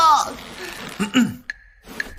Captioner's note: cough cough